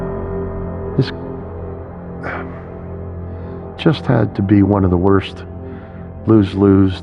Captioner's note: sigighing